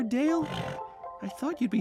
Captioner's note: whinny